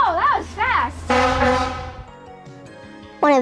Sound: horn honking

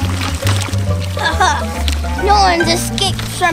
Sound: Evil Assistant laughs

